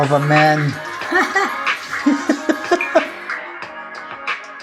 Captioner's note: both laugh